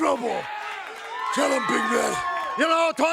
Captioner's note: crowd cheering